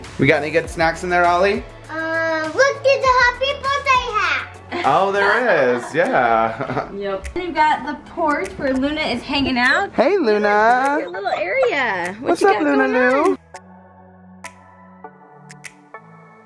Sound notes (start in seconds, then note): 4.7 laughter; 13.9 cool music